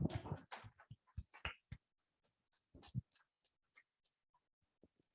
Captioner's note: attendees clapping